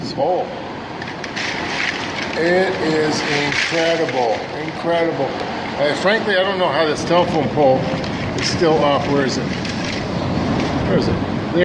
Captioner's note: crashing noises